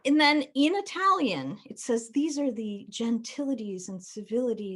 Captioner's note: none